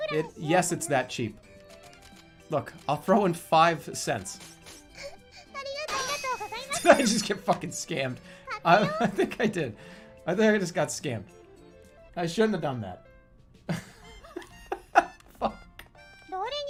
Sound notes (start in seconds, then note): 8.7 giggling; 13.7 laughing